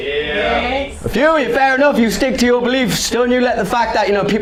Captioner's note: roughly Three People Cheer